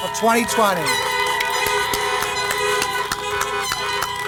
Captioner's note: applause